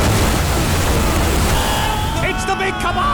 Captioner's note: buzzing; splashing